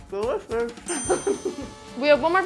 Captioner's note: ding; laughs